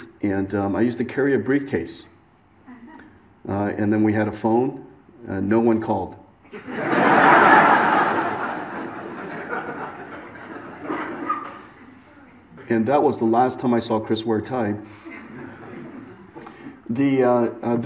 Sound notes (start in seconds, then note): 6.5 audience laughs